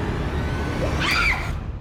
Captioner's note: Cindy screaming